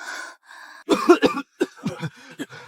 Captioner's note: coughing